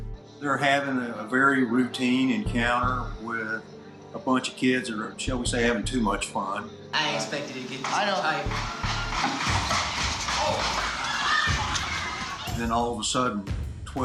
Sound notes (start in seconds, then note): 9.2 gunshots; 11.1 people screaming